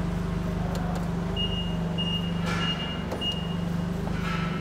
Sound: beeping

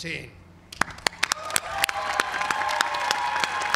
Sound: cheering

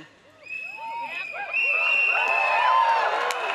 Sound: crowd cheers

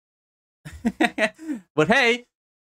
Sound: laughs?

